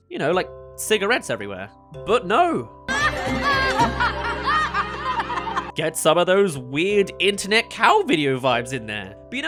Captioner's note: laughing